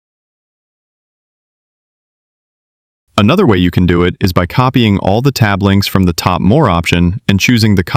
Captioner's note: thoughtful